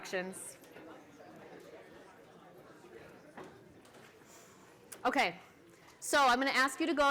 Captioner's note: chatter